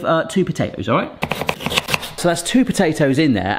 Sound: high-speed chopping

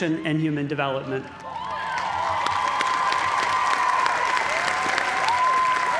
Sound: cheers and applause

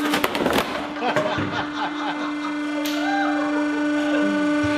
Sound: both: Laughing

